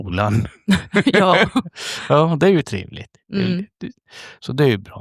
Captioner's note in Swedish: skratt